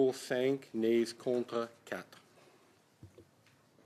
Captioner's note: speaking French